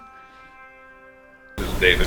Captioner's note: phone ringing